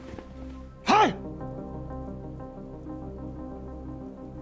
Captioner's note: monk grunts